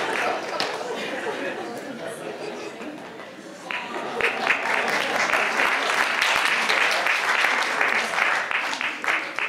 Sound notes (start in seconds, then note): 3.6 audience applauds